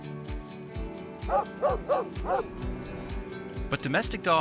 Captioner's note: dog barking